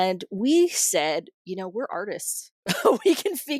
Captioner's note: laughter